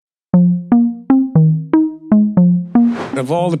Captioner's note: soft upbeat music; air whooshing